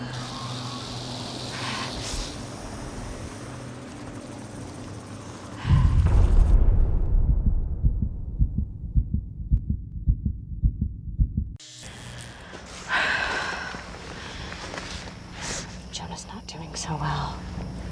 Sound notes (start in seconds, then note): 12.4 sighs